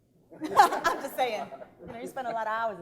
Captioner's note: laughing